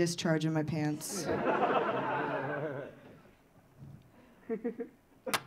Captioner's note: audience laughing